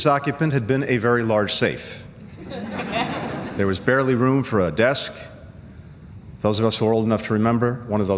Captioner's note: laughter